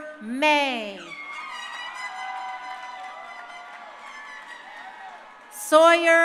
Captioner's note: crowd cheering; horns blasting